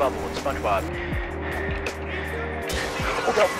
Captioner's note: heavy Breathing